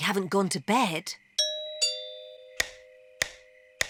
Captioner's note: doorbell chimes